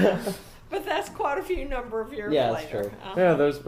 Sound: laughing

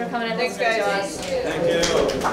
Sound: applause

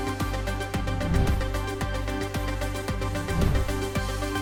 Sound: air whooshing; air whooshing

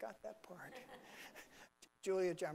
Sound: laughing

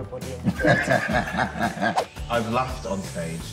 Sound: laughs

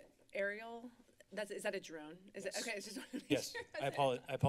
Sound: laughs

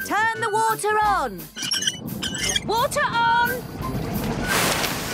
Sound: wheel squeaking

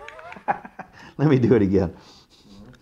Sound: chuckles

